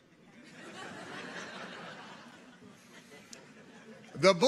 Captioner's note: audience chuckles